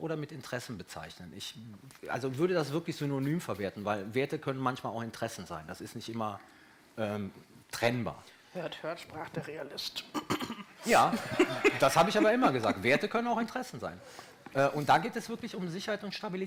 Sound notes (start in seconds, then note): 11.0 laughter